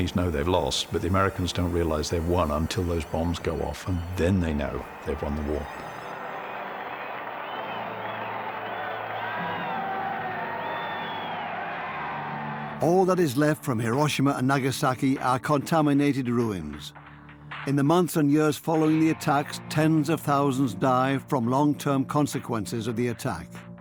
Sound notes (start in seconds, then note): 8.0 whistling and cheering